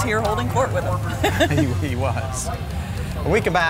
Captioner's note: both chuckling